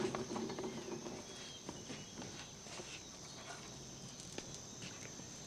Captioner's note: birds chirping outside